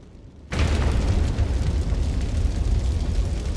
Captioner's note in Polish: odgłosy z pożaru